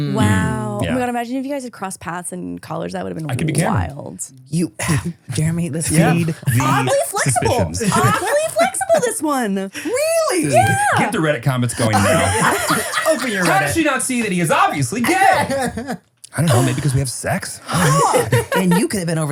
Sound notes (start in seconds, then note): 11.8 everyone laughs